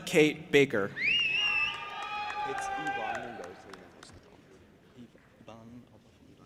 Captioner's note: audience applauding and cheering